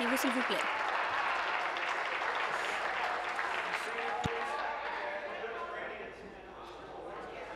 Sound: applause

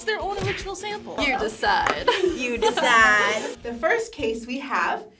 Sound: laughs

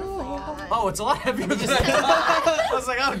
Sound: laughs

